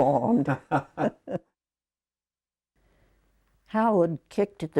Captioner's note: laughing